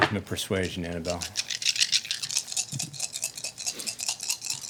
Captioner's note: dice rolling